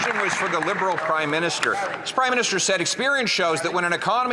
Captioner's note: some Applause